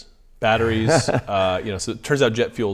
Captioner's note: laughs